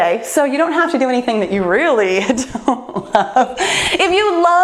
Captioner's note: laughs